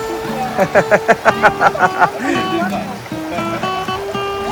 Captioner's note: laugh